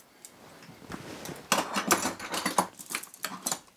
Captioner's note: clattering